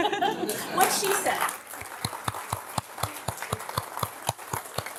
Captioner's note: applause